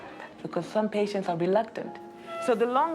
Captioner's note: machine bleeps